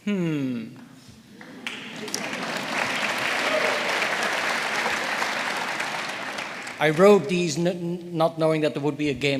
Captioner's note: applause